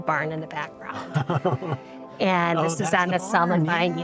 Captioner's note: laughs